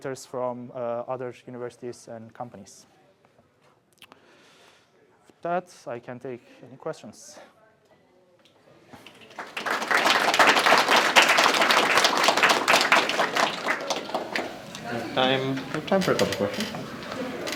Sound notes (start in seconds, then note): 9.0 applause